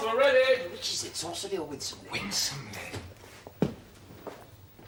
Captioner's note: SANDY, whispering to SIMON; SIMON, whispering